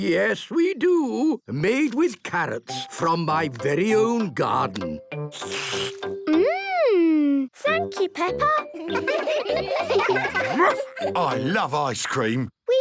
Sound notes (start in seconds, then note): 5.3 slurps